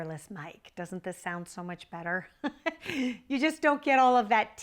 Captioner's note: laughs